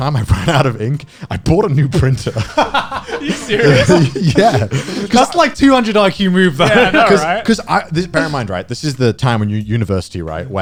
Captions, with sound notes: - So every time I ran out of ink, I bought a new printer. (guys laughing) - Are you serious? - Yeah. - That's like 200 IQ move though. - Yeah, I know, right? - Bear in mind, right, this is the time when you're in university, right?